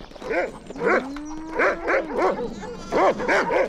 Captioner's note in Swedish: skäller